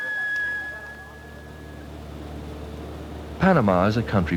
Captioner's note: helicopter fly-over